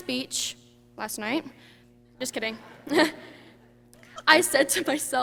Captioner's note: chuckles